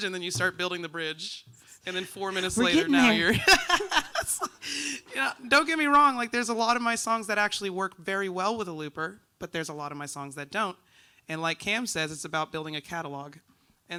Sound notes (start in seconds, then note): 4.2 laughs